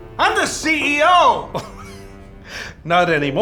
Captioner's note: laughs